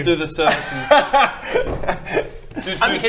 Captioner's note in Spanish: se echa a reír